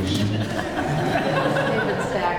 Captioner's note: laughter